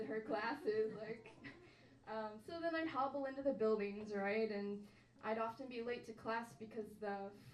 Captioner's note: laughs